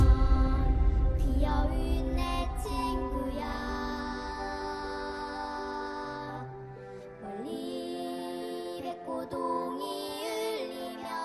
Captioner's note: sound of collision